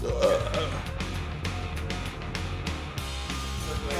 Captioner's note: burps